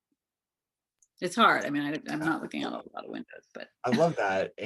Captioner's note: chuckles